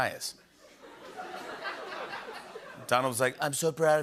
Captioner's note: laughter